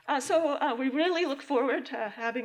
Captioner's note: none